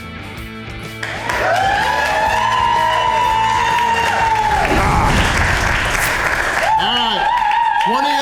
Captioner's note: crowd cheering